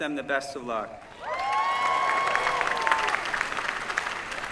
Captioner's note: applause